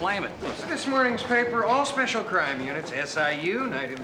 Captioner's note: none